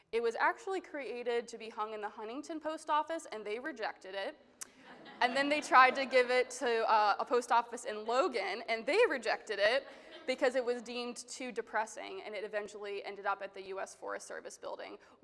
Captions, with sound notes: It was actually created to be hung in the Huntington Post Office and they rejected it. And then, they tried (attendees laughing) to give it to a post office in Logan and they rejected it, because it was deemed too depressing. And it eventually ended up at the US Forest Service Building